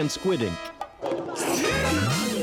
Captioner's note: slurps